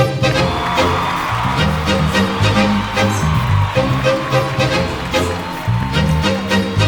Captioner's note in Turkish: Alkış